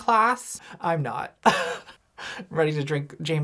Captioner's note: laughs